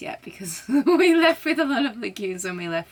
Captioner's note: laughs